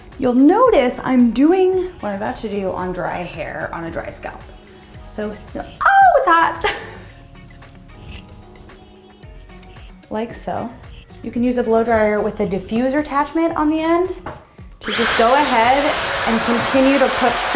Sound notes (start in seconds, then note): 7.4 laughs